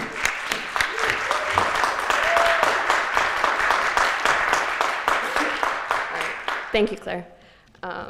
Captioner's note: applause